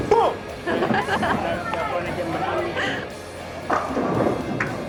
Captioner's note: laughs